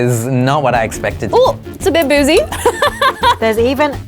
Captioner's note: laughs